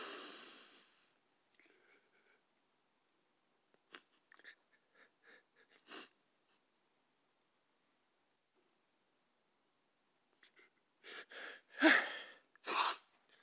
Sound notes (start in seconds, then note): 0.0 soft sniffling; 4.8 soft whimpers